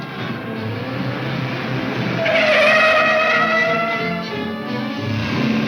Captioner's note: tires squealing